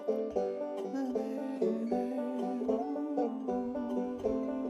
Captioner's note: vocalizing